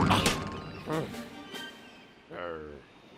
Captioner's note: sighs